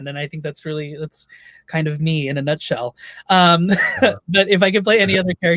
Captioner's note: laughs